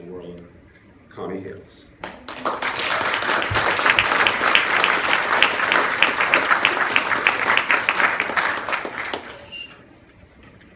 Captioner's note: applause